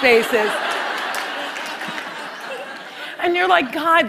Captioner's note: laughter